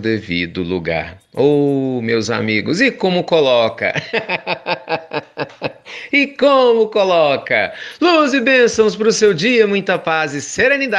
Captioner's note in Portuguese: risos